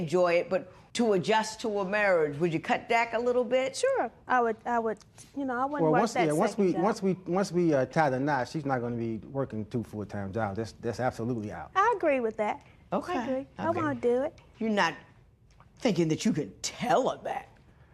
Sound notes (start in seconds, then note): none